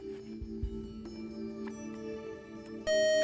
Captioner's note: buzzer